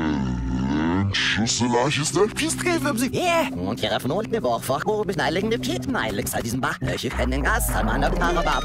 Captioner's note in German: Dinosaurier redet rückwärts